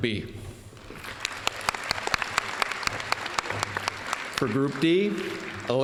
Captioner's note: applause